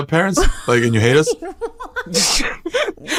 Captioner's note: laughs